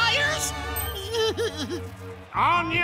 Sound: sobbing

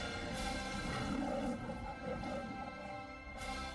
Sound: fanfare finishing as Leo the Lion roars

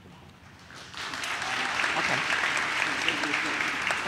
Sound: audience claps

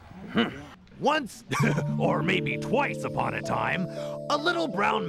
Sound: chuckles

